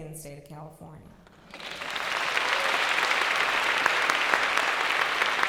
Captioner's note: applause